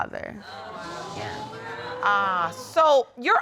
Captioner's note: audience exclaims